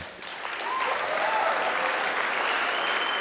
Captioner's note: applause